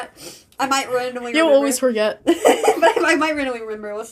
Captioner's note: laughs